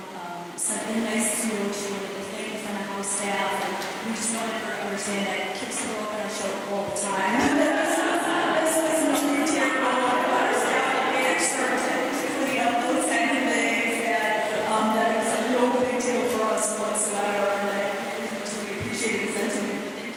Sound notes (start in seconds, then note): 11.1 laughter